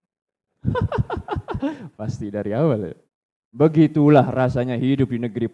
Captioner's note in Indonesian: tertawa